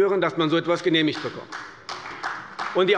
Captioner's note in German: Beifall bei Abgeordneten der CDU